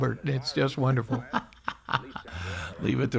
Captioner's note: laughing